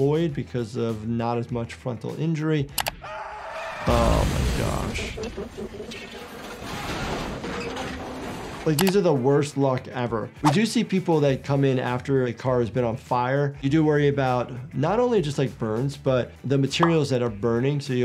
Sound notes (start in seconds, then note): 3.0 driver shrieks; 3.8 explosion crashes; 5.5 metal creaks